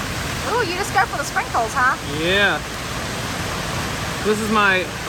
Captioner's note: none